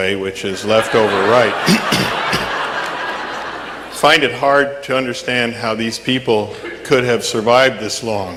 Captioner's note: audience laughing